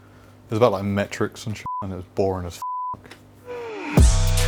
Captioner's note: beep